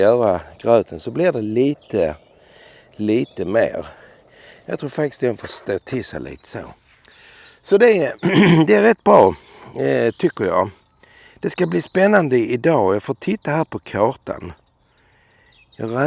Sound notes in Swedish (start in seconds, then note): 8.2 harklar sig